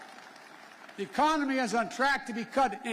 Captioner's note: applause